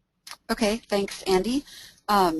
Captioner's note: voiceover